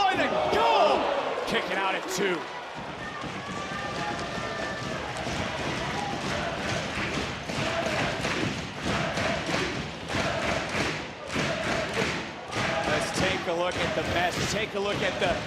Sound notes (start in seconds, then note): 6.6 audience chanting "nxt"